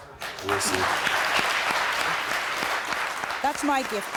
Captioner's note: crowd clipping